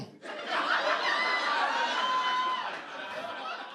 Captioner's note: audience laughter